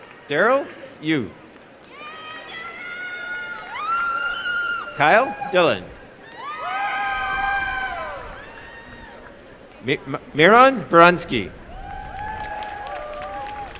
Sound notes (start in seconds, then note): 2.5 applause and cheering; 13.5 applause and cheering